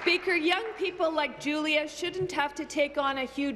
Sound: applause

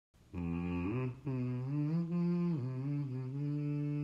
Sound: humming

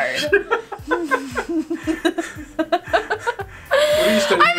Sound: laughing

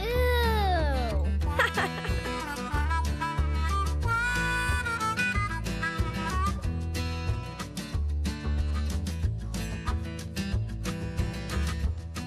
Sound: laughing

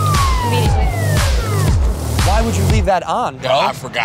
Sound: police sirens

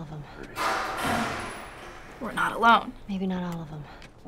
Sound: distant bang

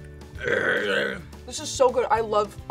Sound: growls

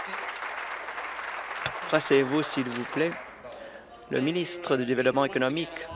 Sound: applause

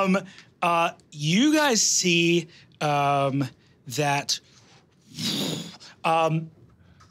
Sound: blows air

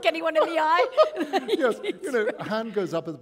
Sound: laughter

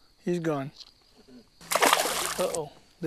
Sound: splash

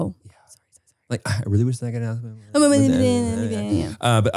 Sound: both mumbling

